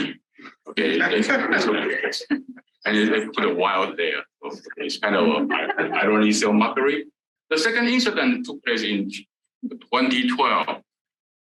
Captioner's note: laughter